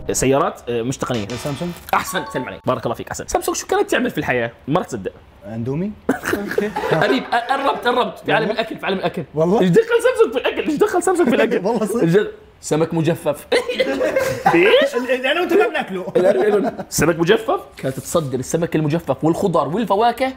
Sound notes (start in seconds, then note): 6.2 laughs; 16.3 laughs